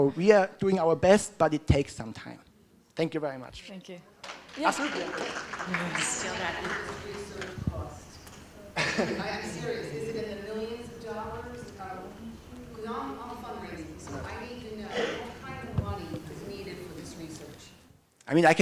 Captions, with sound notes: We are doing our best but it takes some time. Thank you very much. -Thank you. [applause] -How much does this research cost? I'm serious. Is it in the millions of dollars? Because I'm a fundraiser. I need to know What kind of money is needed for this research?